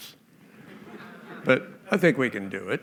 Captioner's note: laughter